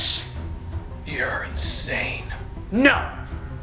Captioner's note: whispering